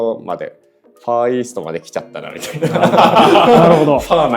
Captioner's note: laughs